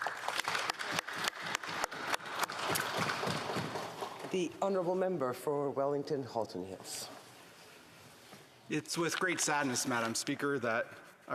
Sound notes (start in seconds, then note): 2.3 applause